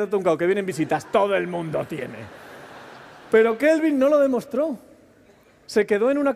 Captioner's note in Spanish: Risas